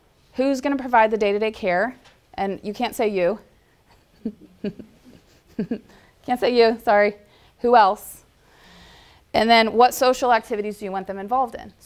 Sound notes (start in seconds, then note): 3.9 giggle